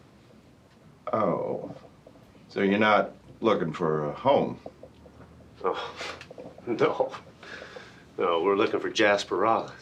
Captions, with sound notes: - Oh. So you're not looking for a home? - Oh, (chuckles) no. No, we're looking for Jasper Rollins.